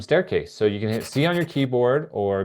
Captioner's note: pencil scribbling